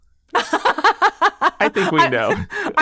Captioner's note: person laughing